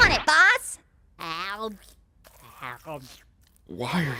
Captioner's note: slurping